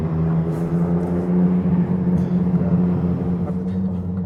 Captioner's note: traffic roaring